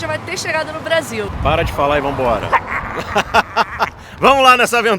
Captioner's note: laughters